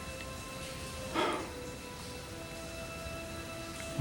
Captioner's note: sighs